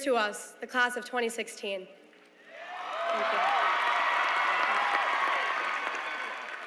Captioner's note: applause